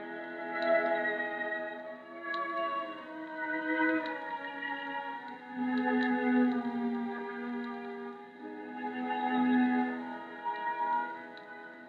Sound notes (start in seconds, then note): none